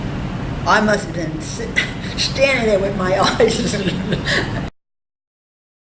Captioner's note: laughs